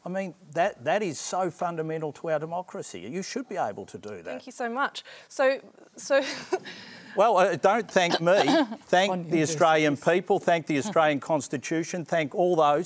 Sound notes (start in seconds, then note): 8.0 laughs